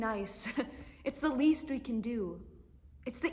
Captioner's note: laugh